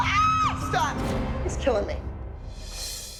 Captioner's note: Abby Lee screams